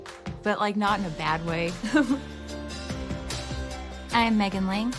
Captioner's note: laughs